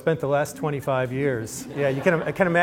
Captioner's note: laughter